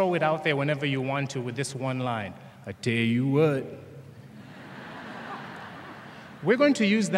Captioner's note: laughter